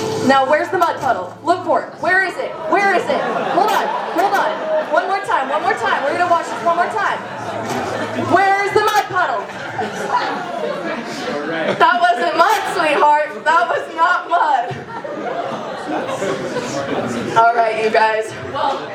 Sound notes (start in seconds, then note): 7.5 laughter